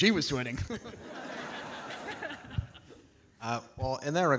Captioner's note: audience laughing